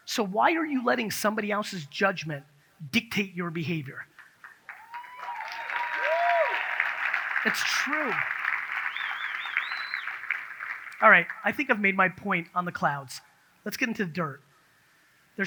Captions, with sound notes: So why are you letting somebody else's judgment dictate your behavior? (audience cheers) It's true. (audience cheers) All right, I think I've made my point on the clouds. Let's get into the dirt.